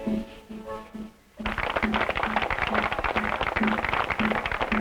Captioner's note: applause